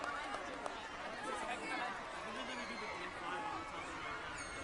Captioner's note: audience members chatter